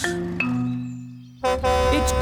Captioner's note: horn honks